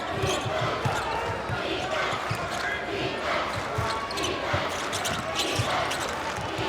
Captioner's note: crowd